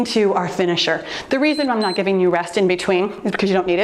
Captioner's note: timer beeps